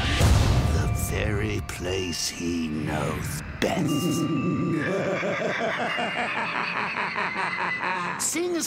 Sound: Joker laughs

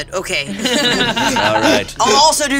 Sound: everyone laughing

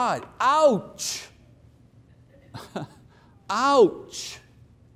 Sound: chuckles

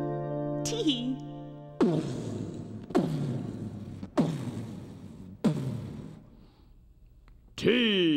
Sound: imitating loud footsteps; in deep voice

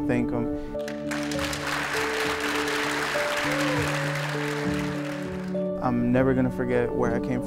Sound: clapping

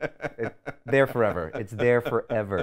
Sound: laughs

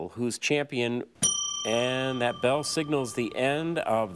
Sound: bell ringing

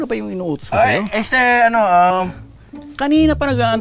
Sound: stuttering

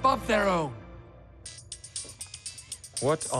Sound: phone ringtone

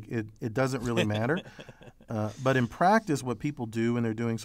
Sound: laugh

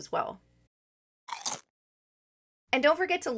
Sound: crunch

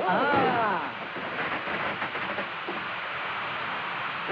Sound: crackers Sound

